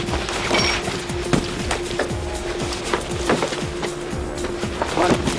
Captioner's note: intense beeping